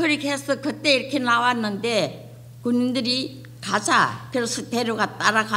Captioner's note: speaking foreign language